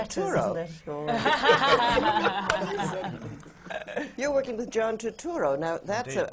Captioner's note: sutton laughs